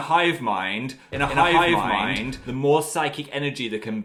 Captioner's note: echoing